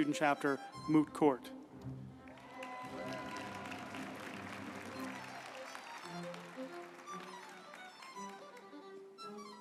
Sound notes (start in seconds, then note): 1.9 uplifting music; 2.0 group applauding